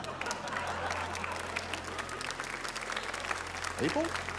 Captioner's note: applause